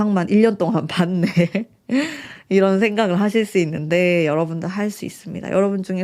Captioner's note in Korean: 웃음